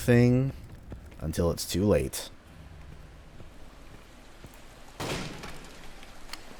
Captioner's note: smash